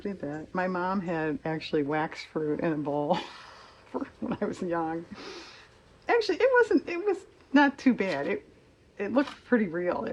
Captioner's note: laughs